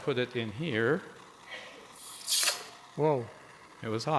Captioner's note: sizzles